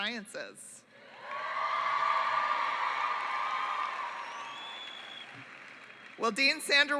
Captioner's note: cheering